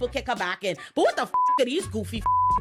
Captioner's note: beep